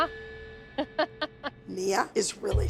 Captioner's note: laughs